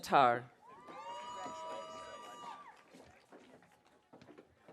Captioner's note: audience cheering